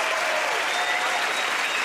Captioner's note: cheers and applause